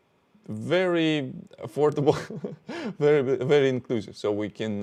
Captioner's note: laughs